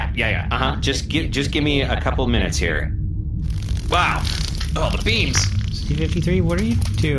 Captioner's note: C-53 flaps wildly